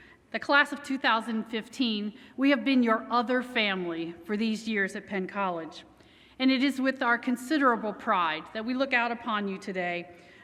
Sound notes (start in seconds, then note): none